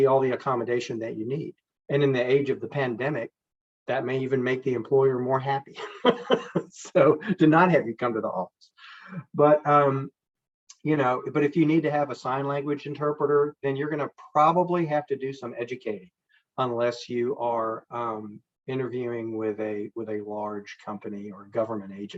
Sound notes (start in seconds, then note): 5.7 chuckles